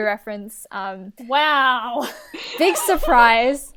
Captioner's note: hosts laugh